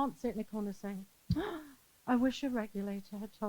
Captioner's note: sighs